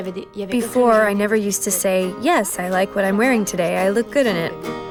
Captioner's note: speaking French with translation